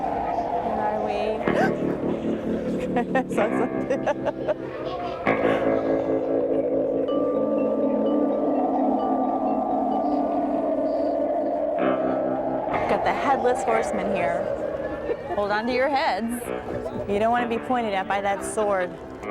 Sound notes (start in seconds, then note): 0.0 intense music; 1.5 gasps; 2.6 laughs